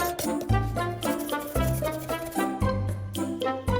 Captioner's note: shake shake